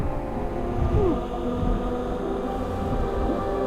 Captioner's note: groan